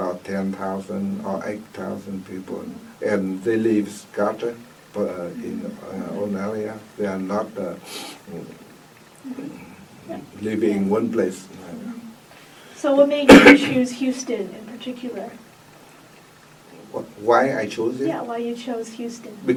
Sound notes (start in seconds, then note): 8.8 coughs